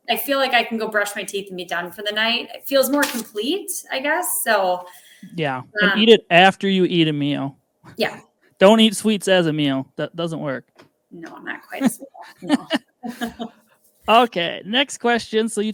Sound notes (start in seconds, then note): 11.8 both laughing